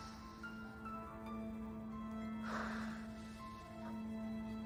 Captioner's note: sighing